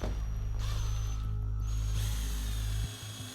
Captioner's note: drill whirring